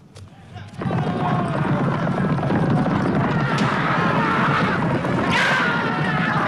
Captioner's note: horse hooves pounding; raiders clamoring